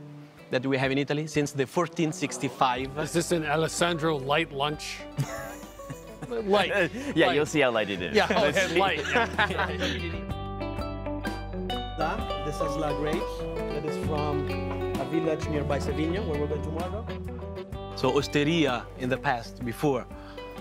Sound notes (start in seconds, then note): 5.1 chuckling; 8.2 laughter